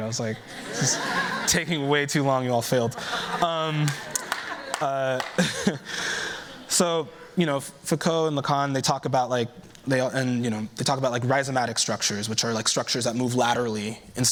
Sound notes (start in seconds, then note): 2.8 laughter